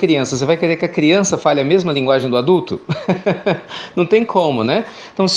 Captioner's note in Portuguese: Risos